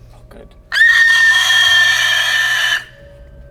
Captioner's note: unholy high pitched scream omg make it stop